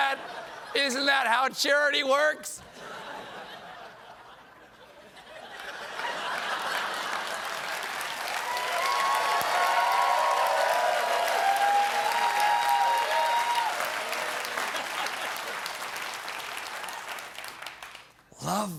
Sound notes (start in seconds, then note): 5.2 laughter; 5.7 cheers